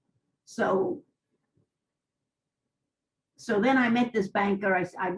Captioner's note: pauses for 3 seconds